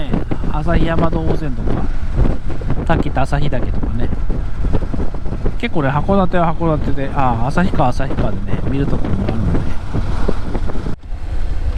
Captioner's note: laughs